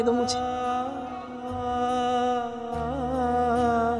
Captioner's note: poignant vocalisation